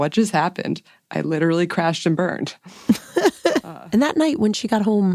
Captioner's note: laughs